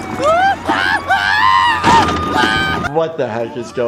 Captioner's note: Cuddles yelling